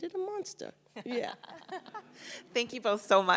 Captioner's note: panelists chuckle